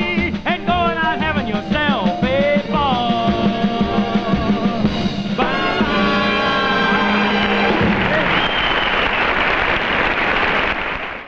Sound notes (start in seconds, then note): 7.1 audience clapping